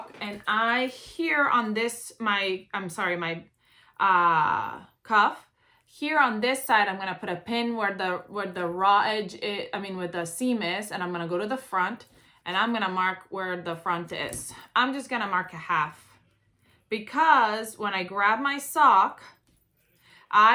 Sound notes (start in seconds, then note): none